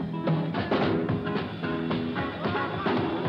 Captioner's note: crowd cheering